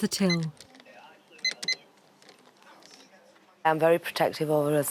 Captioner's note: beeping